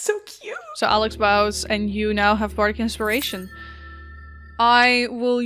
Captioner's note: Twinkling sound of Bardic Inspiration